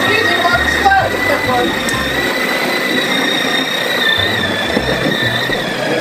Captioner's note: sled engine driving; voices drowned out by engine